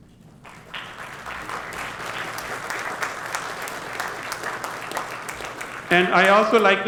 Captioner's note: applause